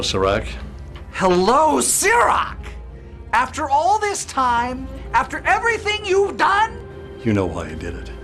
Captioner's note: shouting